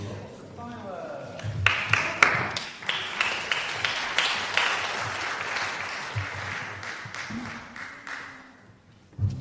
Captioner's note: applause